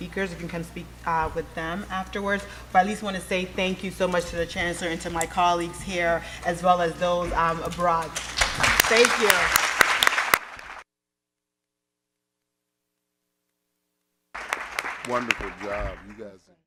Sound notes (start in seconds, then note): 9.8 audience applauding